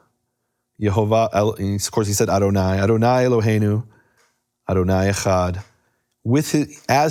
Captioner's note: speaking in foreign language